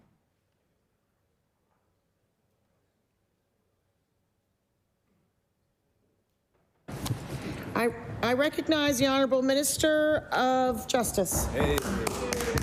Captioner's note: some Applause